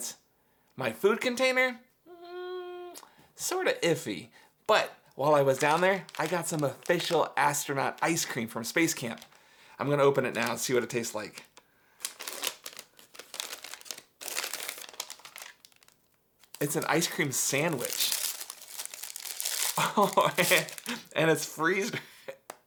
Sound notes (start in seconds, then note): 12.0 bag ripping; 19.8 laughing